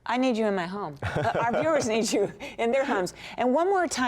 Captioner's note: laughter